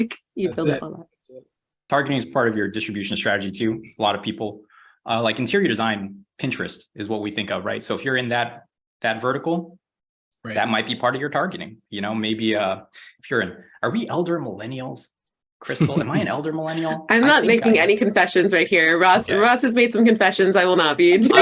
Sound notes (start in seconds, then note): 15.7 laughs